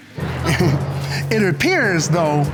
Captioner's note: scattered laughter